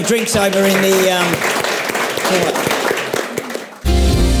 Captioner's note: audience and panel applauds